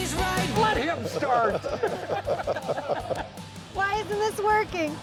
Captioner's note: laughing